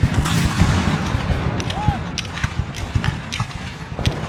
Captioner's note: guns fire